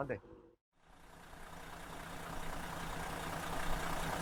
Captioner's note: engine running